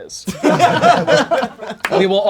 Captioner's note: crowd laughing